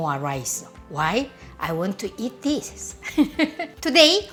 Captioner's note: laughs